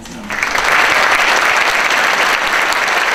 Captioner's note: applause